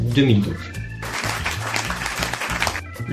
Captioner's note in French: Applaudissements